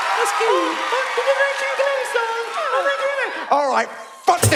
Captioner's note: cute voice